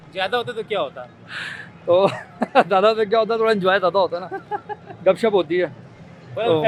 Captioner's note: laugh